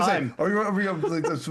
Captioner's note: laughter